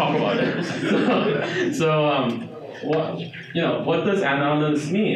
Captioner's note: audience laughing